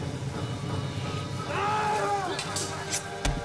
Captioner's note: yells